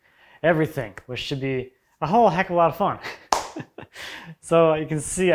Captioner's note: laughing